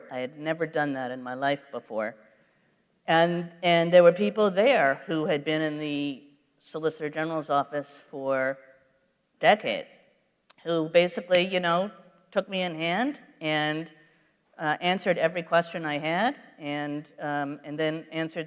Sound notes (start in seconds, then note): none